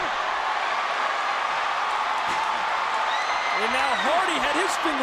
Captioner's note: audience cheering